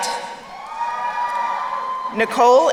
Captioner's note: crowd cheering